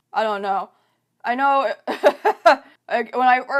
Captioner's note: laughs